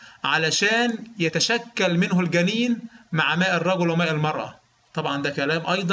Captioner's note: explaining in Arabic